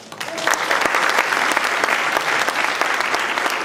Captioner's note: applause